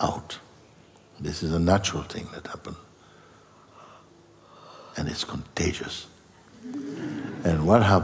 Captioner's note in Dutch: gelach